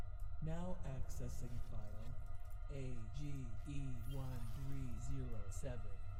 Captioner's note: digital Male Voice